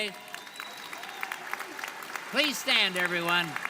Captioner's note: audience applauding